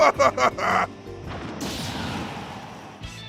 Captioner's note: laughs; sounds of lightning strikes